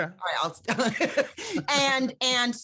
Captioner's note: laughs